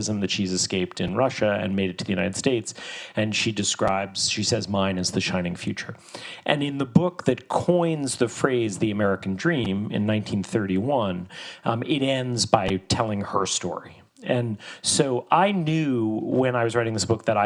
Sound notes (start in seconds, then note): none